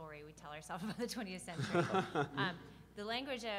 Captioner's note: laughing